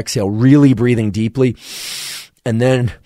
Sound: inhales deeply

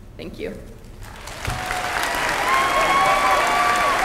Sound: applause

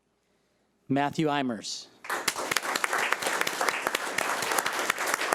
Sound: audience applauding

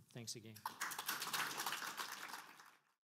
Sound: audience applause

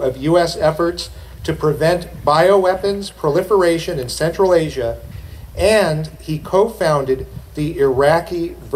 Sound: none

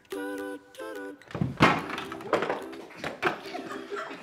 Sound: running into shelf; laughing

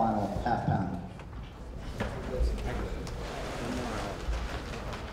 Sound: people chattering

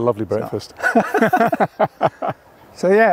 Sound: both laugh

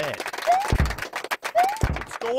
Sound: applauds

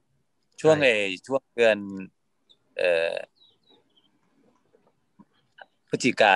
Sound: speaking in foreign language

